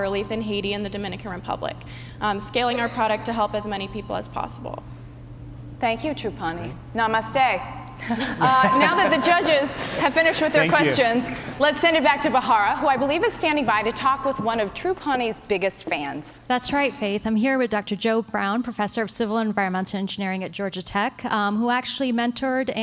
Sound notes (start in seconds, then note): 8.0 laughter